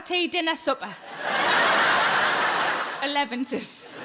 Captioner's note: audience laughs